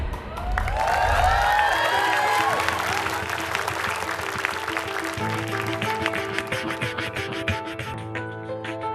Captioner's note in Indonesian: Tepukan penonton